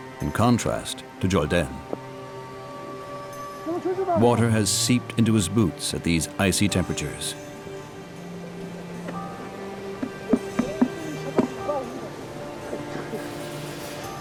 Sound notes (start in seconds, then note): 3.8 speaking foreign language; 7.8 dramatic music